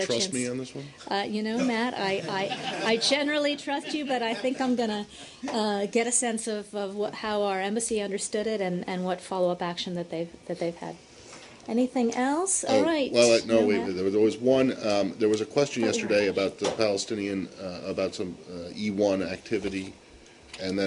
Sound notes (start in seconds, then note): 2.1 laughter